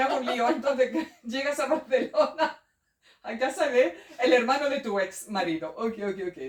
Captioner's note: laughs